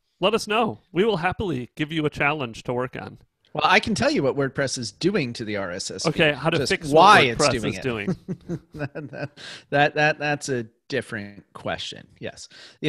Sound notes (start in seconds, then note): 8.9 chuckles